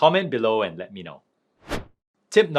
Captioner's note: transition whooshing